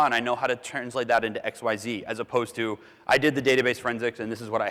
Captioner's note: none